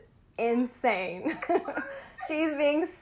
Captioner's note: laughter